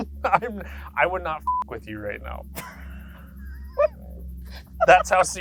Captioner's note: beep; laughs